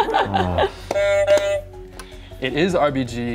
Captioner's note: buzzer sounds